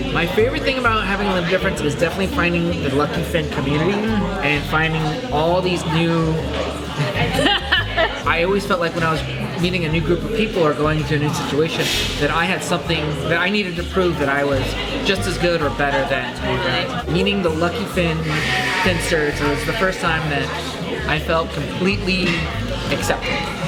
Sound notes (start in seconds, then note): 7.0 laughs